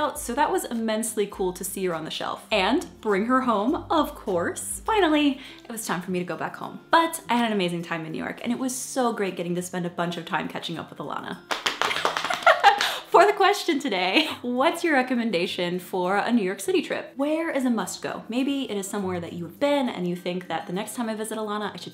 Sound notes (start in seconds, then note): 11.4 clapping; 11.5 laughing